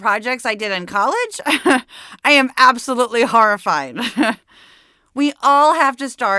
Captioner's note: laughs